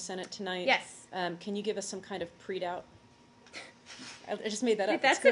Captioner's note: laughter